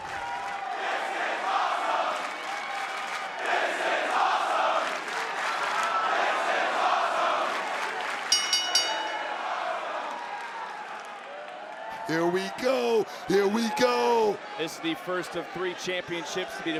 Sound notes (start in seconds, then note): 2.1 clapping; 4.8 clapping; 7.3 clapping; 8.3 bell dinging